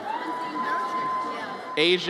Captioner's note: audience cheers